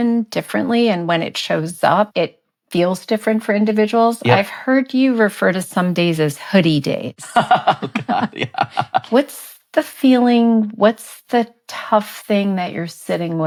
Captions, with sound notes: and when it shows up, it feels different for individuals. - Yeah. - I've heard you refer to some days as hoodie days. - (laughing) Oh God, yeah. - What's the feeling... What's the tough thing that you're sitting with?